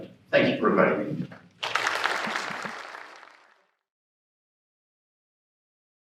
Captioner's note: applause